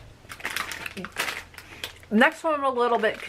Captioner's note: plastic crinkling